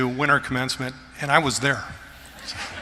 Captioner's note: laughter